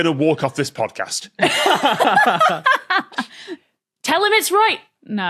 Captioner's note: group laughing